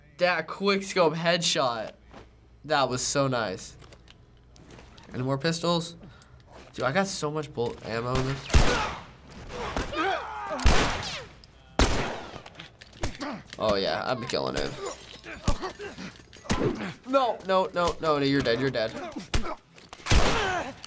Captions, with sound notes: Dat quick scope headshot. That was so nice. Any more pistols? Dude, I got so much ammo in this. (in game: grunting) Oh yeah. I be killin' him. No! No, no, no. You're dead. You're dead. (man grunting)